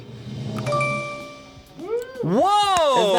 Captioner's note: tense music building; bell chimes; button clicks